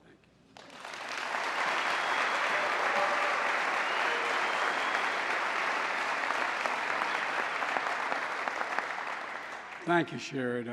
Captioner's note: applause